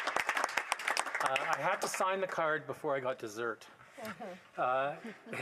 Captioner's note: applause